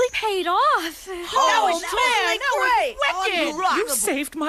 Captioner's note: all cheering